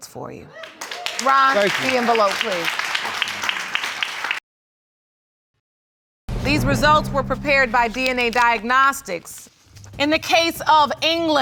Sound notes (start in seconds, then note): 4.1 crowd cheering